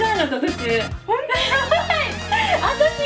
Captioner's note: laugh